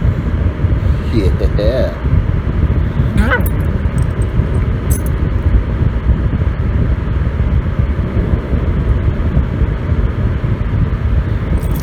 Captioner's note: Caprice growls